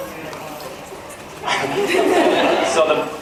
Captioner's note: laughs